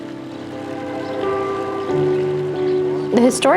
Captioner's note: train horn in distance